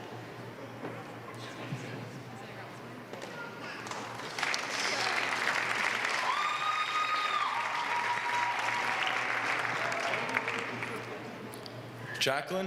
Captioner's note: applause